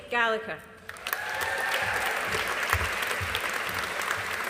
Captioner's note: audience applauding